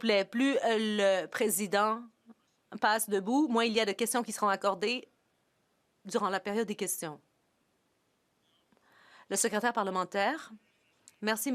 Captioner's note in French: voix de l'interprète